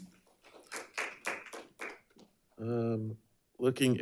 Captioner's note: crowd applauding